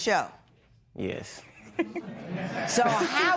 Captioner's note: laughs